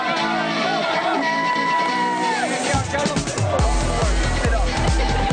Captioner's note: upbeat music; crowd cheers; upbeat music